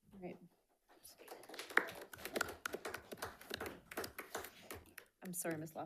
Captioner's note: attendees clapping